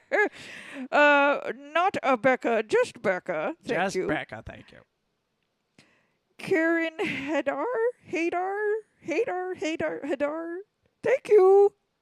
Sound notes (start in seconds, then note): 0.0 Leia cackles